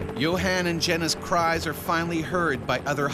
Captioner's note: voiceover